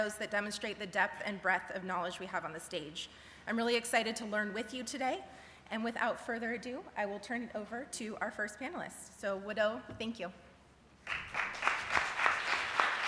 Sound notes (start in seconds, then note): 9.2 speaking cherokee; 11.0 clapping